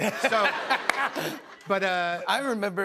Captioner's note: laughter